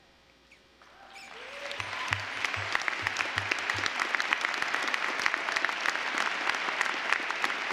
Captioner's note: applause